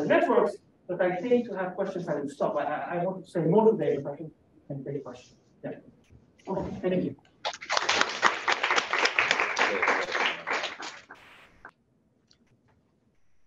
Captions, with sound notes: networks. But I think to have questions, I will stop. Okay thank you. (Applause)